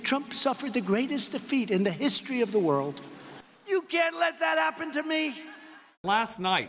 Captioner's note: laughter